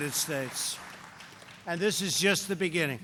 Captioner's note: applause